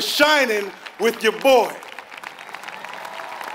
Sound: applause

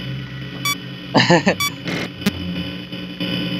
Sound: chuckles

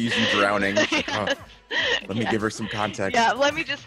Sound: laugh

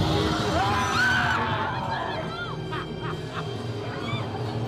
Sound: screams

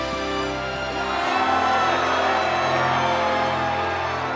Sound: cheering

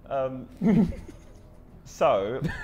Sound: Tobi laughing

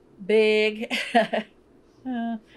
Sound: laughs

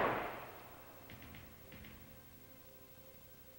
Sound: gunshot

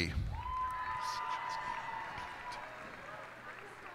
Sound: cheers and applause

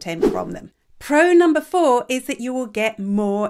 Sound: image whooshes

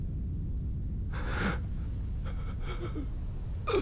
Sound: breathing heavily

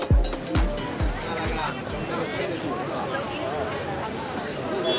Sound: crowd chattering

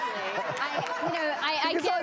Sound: audience laughs

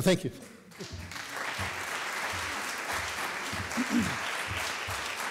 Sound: audience clapping

